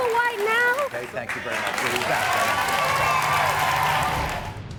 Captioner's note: crowd cheering